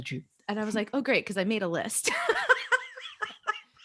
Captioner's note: laughs